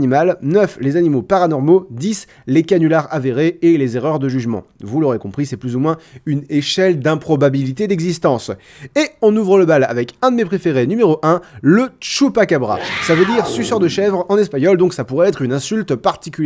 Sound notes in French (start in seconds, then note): 12.7 Cri de fauve